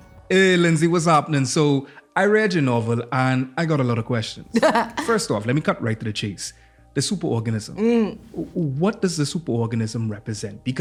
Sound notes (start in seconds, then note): 4.5 laughs